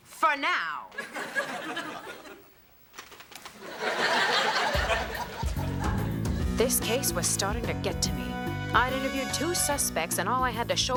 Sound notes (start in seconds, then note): 3.6 audience laughs